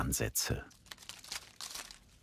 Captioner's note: rustling